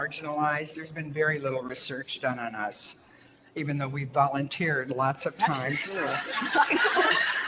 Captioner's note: audience laughter